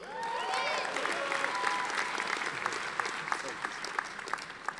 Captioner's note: audience applauding